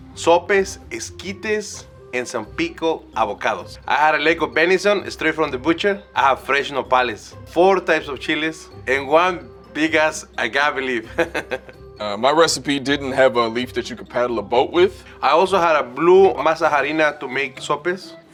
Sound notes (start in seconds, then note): 11.0 laughs